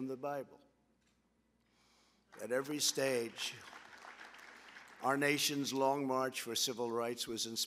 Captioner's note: applause